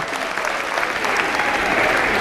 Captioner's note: applause